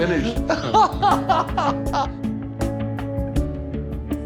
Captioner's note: laughing